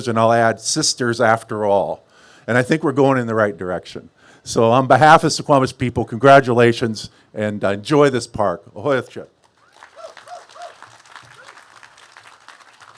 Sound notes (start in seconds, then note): 8.3 speaks a global language; 9.5 cheers and applause